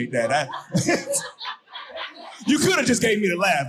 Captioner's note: audience laughing